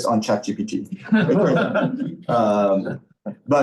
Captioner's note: laughter